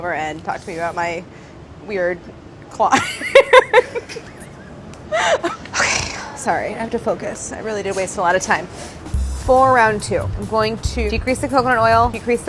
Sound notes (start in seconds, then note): 3.2 laughing; 9.1 upbeat jazzy music